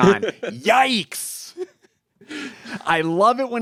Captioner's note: laughing